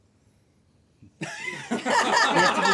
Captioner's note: laughter